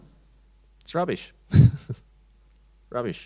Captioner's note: chuckles